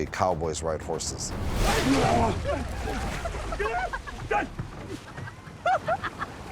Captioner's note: characters laughing